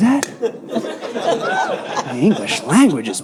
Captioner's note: audience laughing